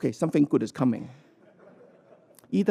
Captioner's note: laughter